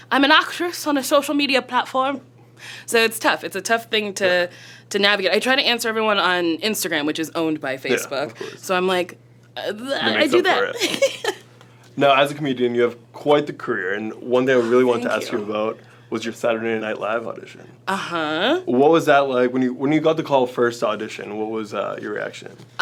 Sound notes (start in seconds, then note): 9.1 stutters; 9.9 giggles